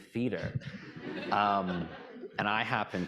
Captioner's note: audience laughing